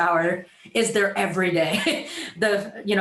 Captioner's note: chuckles